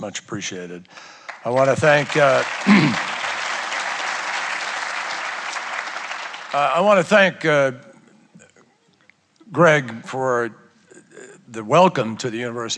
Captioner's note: applause